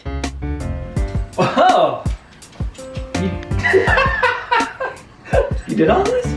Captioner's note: laughs